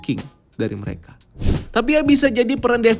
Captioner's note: transition sound